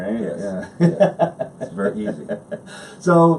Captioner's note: laughs